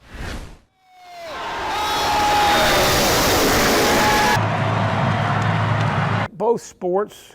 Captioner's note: car engines roaring and crowd cheering